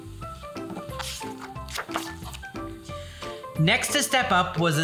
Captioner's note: page rustles